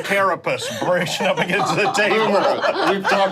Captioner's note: group laughing